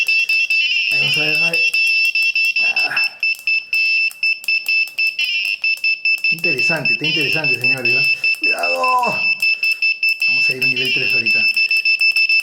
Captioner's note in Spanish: campana